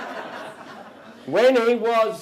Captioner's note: audience Laughter